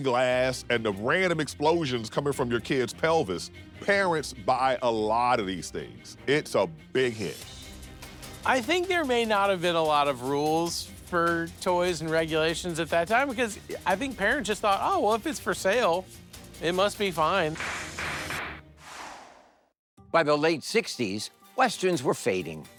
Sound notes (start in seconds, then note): 17.6 firearm banging; 18.7 air blowing